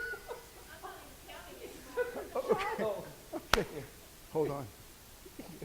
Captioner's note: laughing; voiceover